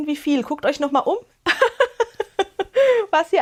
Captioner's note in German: Gelächter